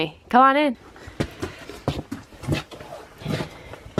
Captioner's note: boots scratching